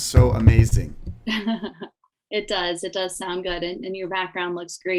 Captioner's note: laughing